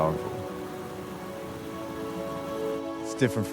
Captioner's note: water rushing